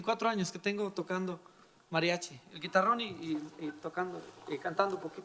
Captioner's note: speaking in foreign language